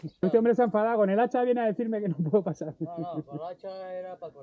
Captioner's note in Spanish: risas